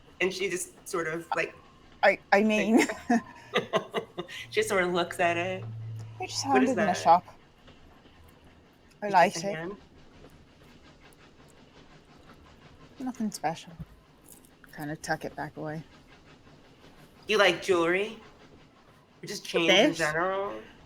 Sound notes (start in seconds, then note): 2.6 chuckles